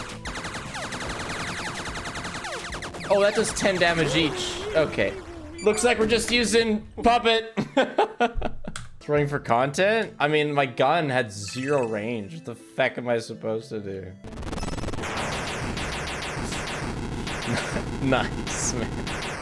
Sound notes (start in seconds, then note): 7.6 laughs